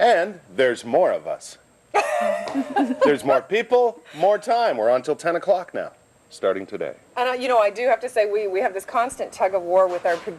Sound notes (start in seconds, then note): 1.9 laughs